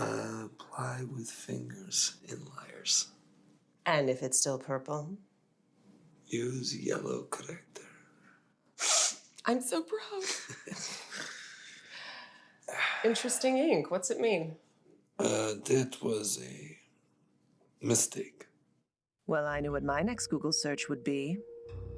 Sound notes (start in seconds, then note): 8.8 Ava sniffles; 10.2 both laughing